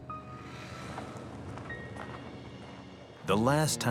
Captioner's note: traffic whirring